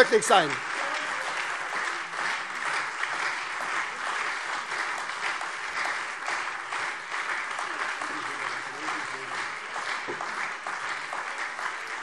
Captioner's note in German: Beifall SPD und Freie Demokraten